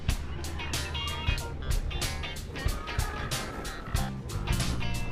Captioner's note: growling in distance